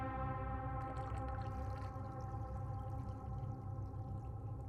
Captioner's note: eerie music; water gurgling